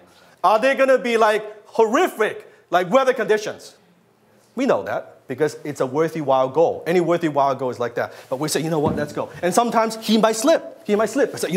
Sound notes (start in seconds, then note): none